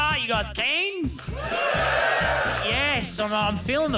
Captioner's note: cheering